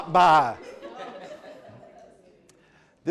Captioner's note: laughter